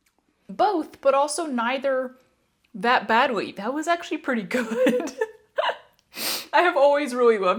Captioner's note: laughter